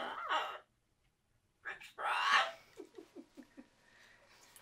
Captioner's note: laughing